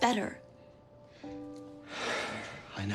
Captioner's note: sighs